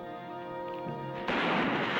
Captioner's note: gunshot